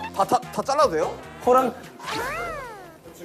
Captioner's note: Tertawa